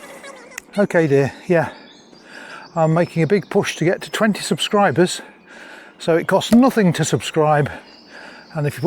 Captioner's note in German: Stimme im Ohr